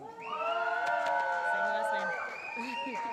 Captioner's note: cheering